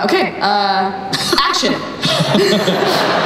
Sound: everyone laughs

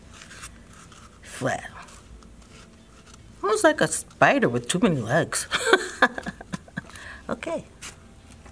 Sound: laughter

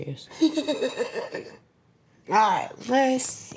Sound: laughs

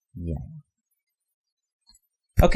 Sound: pause

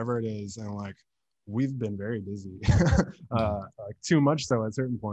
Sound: laughs

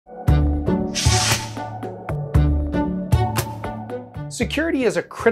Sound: mid-tempo instrumental music; logo whooshes

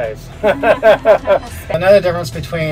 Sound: laughing

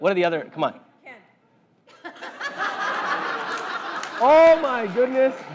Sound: laugh

